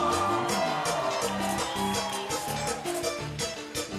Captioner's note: audience cheering